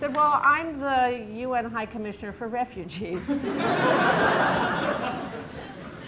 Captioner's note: laughter